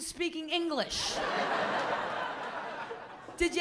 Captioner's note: laughter